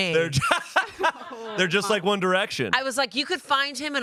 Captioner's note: laughs